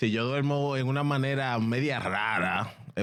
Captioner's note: speaking In Foreign Language